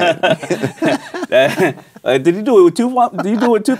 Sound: laughing

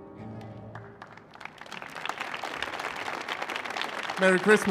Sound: applause

